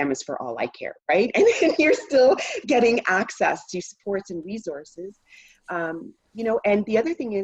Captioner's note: chuckle